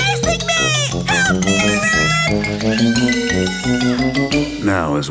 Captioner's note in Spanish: gritos